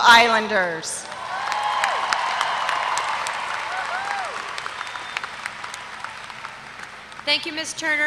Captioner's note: applause